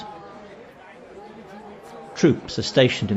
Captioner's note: crowd chattering